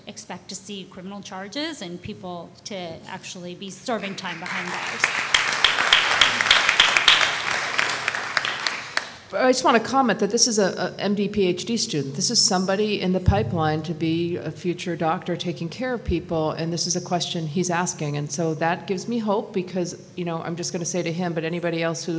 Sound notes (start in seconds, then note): 4.0 applause